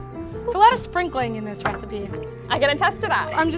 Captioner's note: laughs